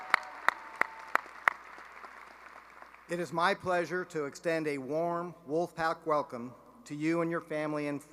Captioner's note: cheering and applause